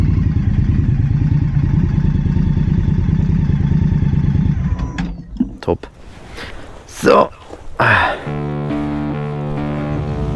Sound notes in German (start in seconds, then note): 7.2 Stöhnen wie ein alter Mann